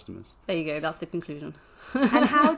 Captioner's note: laughs